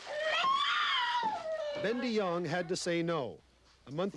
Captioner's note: baby cries